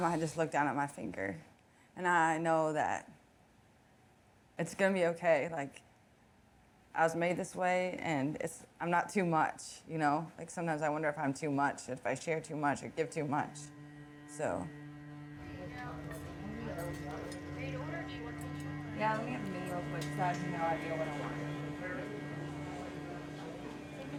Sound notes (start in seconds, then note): 14.4 gentle music; 15.4 people chattering